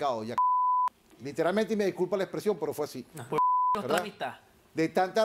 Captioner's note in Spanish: Bip; Bip